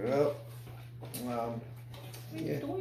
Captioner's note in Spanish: Chasquea Los Labios